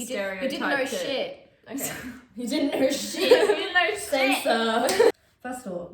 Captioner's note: laughs